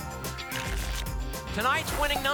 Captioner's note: tickets shuffling